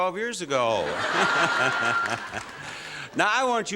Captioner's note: laughter